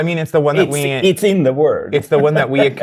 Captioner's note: laughs